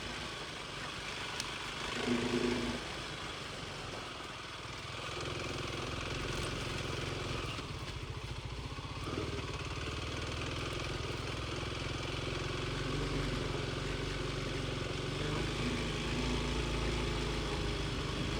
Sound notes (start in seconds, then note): 1.9 motor rumbling